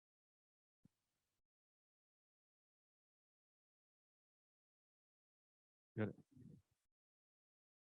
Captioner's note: silence